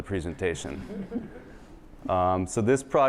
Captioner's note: laughter